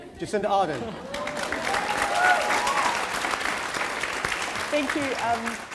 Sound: applause

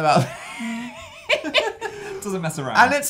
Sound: laughing

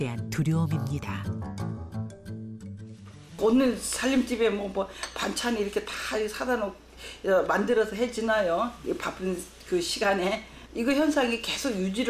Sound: voiceover

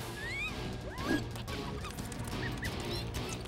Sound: squeaking

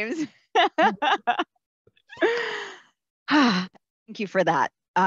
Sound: laughs

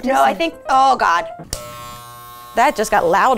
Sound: razor buzzes

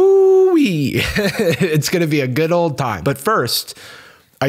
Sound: laughs

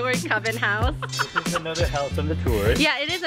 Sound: laughing

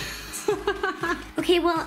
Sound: laughs

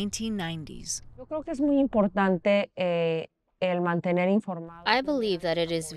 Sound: Governor Pavlovich speaking in foreign language

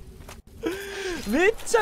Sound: inhales

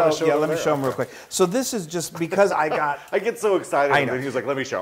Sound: laugh

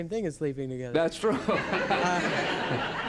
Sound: laughter

